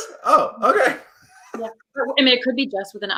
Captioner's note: laughs